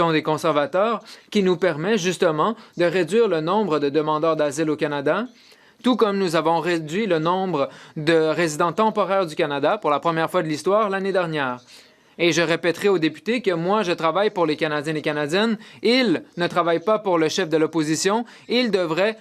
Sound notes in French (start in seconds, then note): 2.0 voix de l'interprète